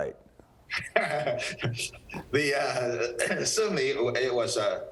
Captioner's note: laughs